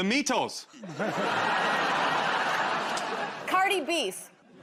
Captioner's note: laughter